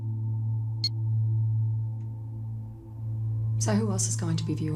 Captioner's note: ominous music; beeping